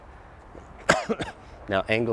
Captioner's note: coughing